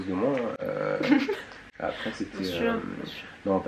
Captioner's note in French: rires